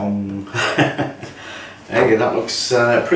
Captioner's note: laughs